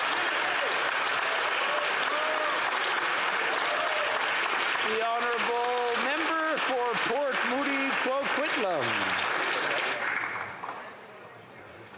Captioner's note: applause